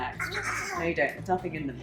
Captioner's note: sputtering